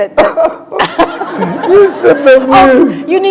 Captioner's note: laughter